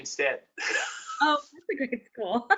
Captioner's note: laughs